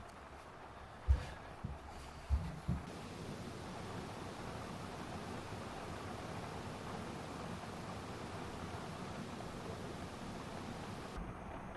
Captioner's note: rain sounds